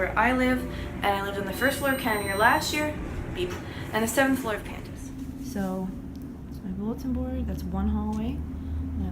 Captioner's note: beep